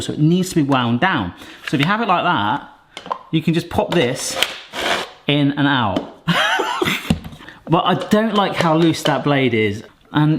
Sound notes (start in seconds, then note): 6.3 laughs